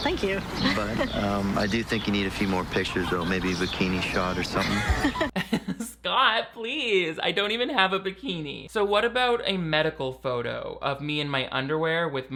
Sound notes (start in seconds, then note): 0.5 laughing; 4.0 Taylor laughing; 4.3 laughing